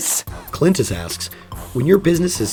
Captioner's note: voiceover